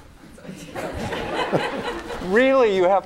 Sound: laughter

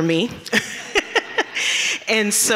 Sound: chuckles

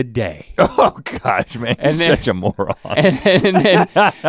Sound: laughs

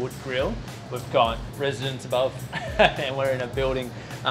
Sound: laughs

